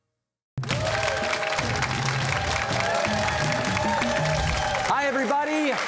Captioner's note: cheers and applause